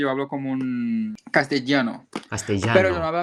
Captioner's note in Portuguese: espanhol